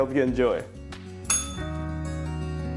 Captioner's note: bell rings